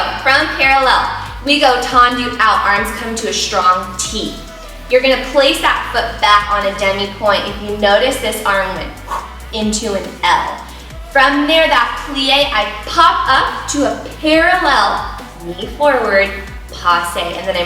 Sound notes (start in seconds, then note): 0.0 laughs; 9.5 swooshing